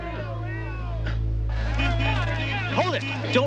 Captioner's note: car horn